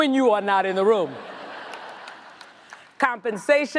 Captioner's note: audience laughs